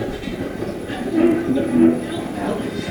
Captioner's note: radio voice